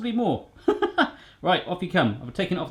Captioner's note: laughs